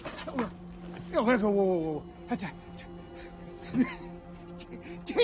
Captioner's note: both speaking French